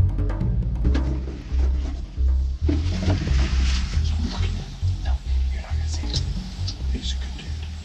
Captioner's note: whispering